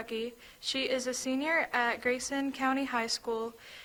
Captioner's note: none